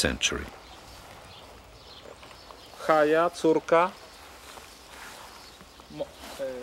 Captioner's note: reading in Hebrew